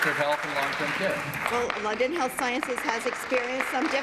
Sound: applause

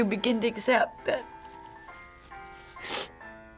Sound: sniffles

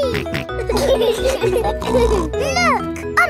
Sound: laughing

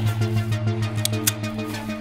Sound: gun clicks

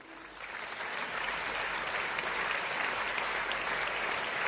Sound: applauding

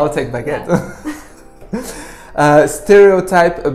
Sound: laughs

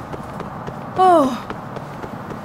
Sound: sighs in relief

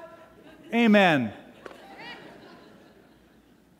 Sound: laughter

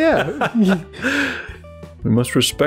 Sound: laughter

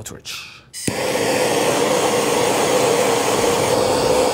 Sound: torch blowing

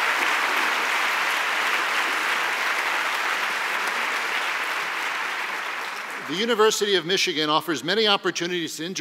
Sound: applause

